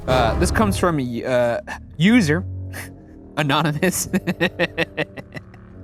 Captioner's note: suspenseful music; laughs